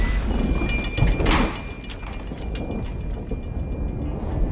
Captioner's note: thunder & Lightning; door bell